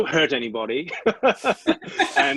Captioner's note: laughs